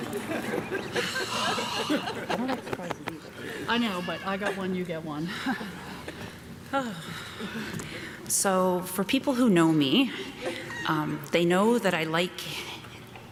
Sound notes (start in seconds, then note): 0.0 audience laughing; 6.8 sighs